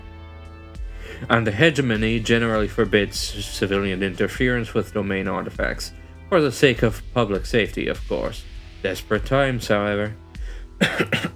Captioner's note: sounds of a dying man